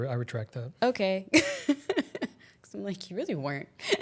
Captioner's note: laughs